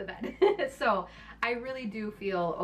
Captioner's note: laughing